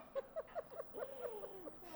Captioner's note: chuckling